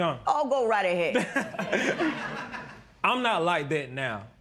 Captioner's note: laughter